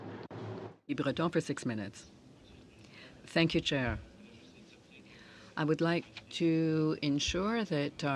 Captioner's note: speaking french